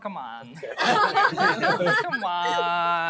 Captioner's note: laughter